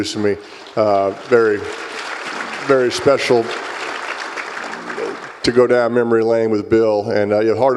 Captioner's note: applause